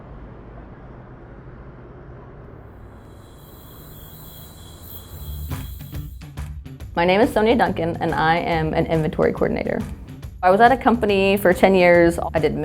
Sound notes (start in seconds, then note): 2.7 crickets chirping; 5.8 rock music